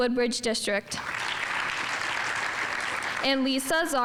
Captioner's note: audience applauding